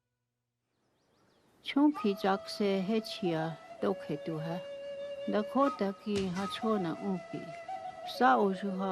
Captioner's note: speaking in Dakota